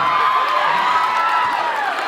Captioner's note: cheers, applauds